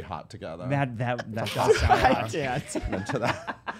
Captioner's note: laughter